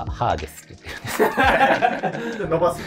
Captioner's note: laughing